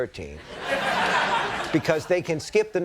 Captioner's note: audience laughing